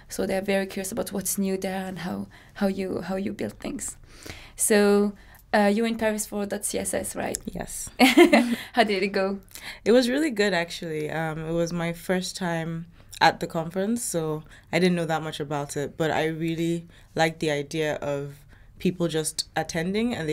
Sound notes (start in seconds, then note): 8.5 laughs